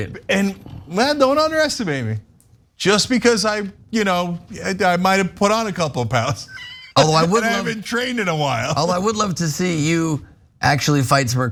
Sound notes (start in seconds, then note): 6.4 laugh